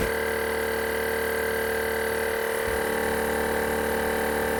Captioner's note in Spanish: ruido compresor de aire